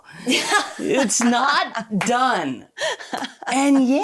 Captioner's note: laughing